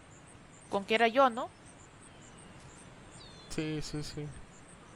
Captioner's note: sarcasm